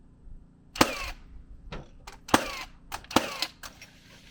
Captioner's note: tool sputtering